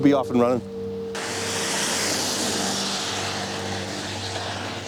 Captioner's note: traffic humming